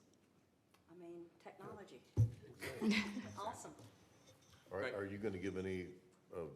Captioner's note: laughter